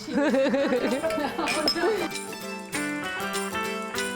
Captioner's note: women laughing, glasses clinking